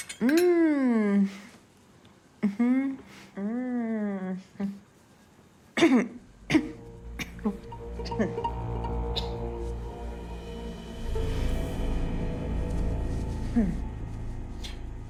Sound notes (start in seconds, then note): 6.4 sound of coughing